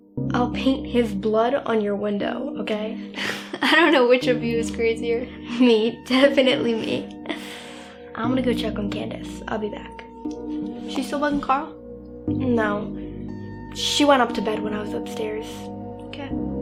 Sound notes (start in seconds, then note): 3.2 laughs; 7.2 laughs